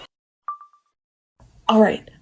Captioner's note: iPhone video recording beep